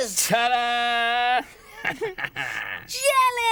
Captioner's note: laughing